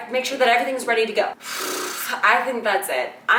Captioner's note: exaggerated exhale